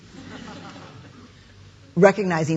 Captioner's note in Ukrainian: сміх